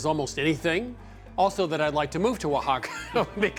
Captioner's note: chuckling